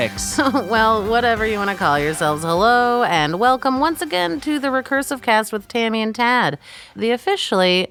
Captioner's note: laughs